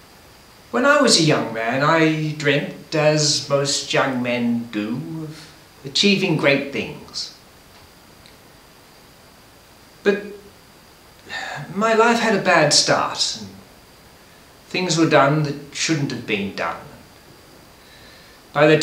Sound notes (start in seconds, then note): none